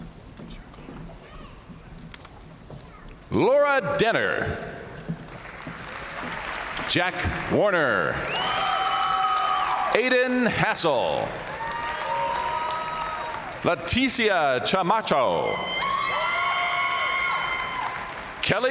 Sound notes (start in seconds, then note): 5.4 audience cheering and applauding; 8.0 audience cheering; 15.2 audience cheering